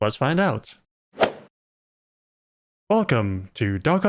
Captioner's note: golf ball hit sound